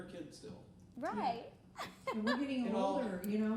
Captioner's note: laughing